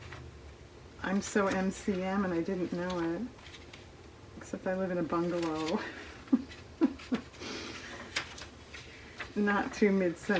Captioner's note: laughs